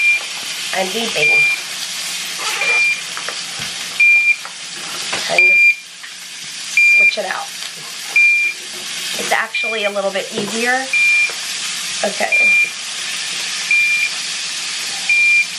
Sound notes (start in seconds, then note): 0.0 IV pump beeping; 1.2 beeping continues; 12.3 beeping continues